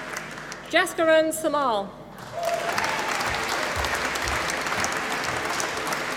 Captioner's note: applause